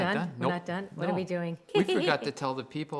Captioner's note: giggles